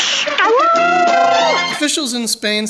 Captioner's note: howling